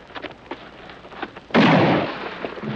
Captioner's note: gunshot